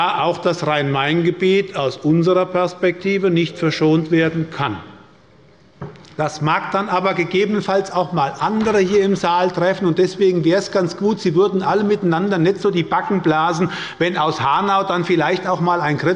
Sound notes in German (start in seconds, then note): none